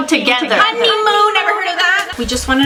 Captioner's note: echoing